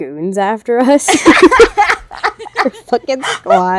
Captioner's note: laughter